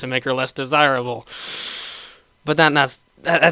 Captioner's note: sharp intake of breath